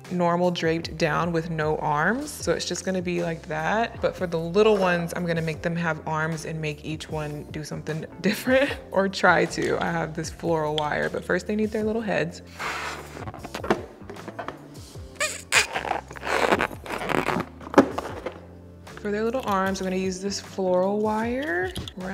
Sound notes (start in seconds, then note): 15.1 plastic squeaking; 15.2 ballon whooshing